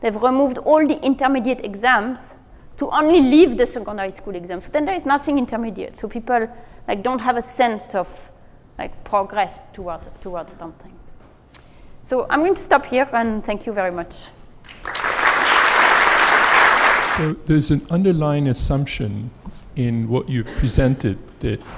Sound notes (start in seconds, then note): 14.6 applause